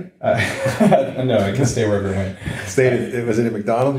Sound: laughing

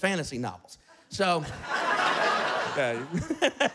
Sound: laughter

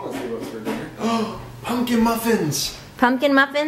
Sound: gasps

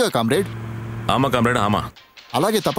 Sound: other language

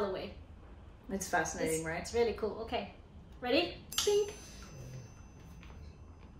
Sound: clink

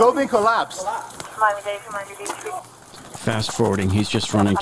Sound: radio dispatching in background

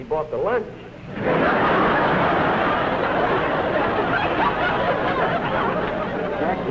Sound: laughter

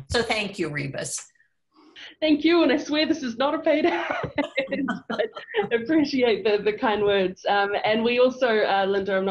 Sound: laughs

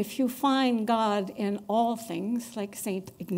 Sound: none

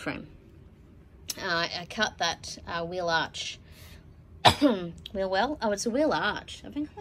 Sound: coughs

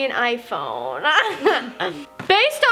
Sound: laughing

